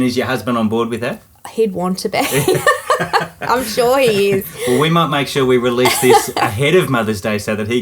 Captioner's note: both laughing